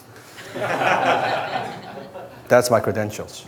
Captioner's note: crowd laughs